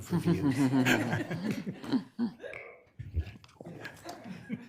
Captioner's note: committee members laugh